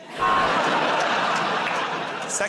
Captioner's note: laughter